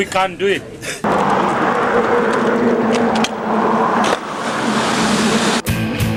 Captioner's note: wind